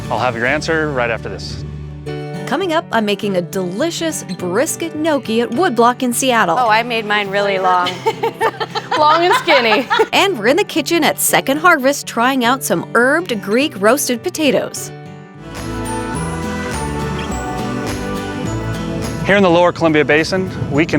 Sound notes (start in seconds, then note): 7.4 laughs; 15.4 upbeat music